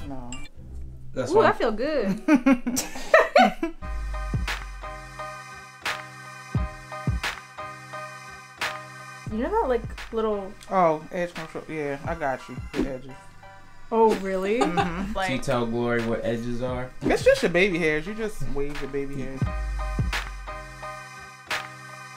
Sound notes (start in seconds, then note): 2.1 laughs; 3.8 funky music; 19.6 funky music